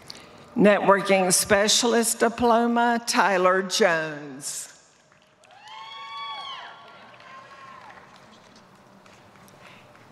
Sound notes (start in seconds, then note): 4.9 applause